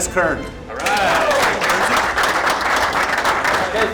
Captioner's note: clapping